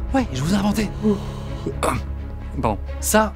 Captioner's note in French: bâillement